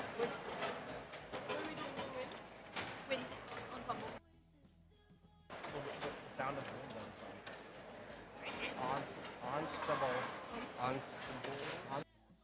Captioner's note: applause